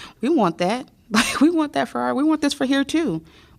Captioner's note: laughter